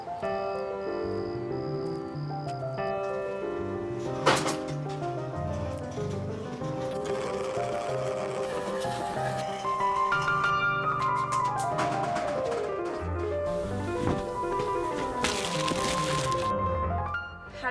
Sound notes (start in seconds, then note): 0.4 footsteps crunch; 3.0 cart rattles; 4.2 frantic music; 15.2 bags rustle